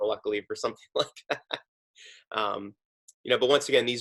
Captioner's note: laughing